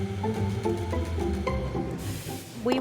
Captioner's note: steam wand whooshes